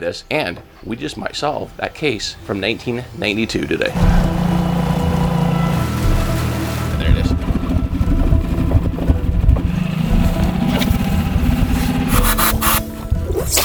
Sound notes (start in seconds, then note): 4.2 motor boat whirring; 5.7 water splashing; 7.9 motor boat whirring; 12.0 oxygen tank hissing